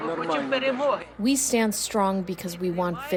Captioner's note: through translator